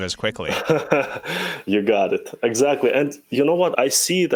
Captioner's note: laughs